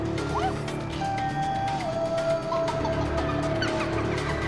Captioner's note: laughing continues